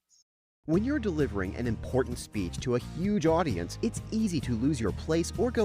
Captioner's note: voiceover